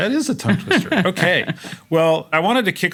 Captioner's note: laugh